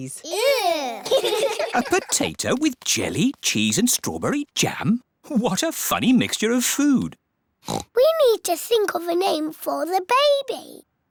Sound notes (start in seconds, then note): 0.2 giggling; 7.6 oinks